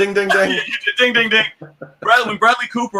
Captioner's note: laughs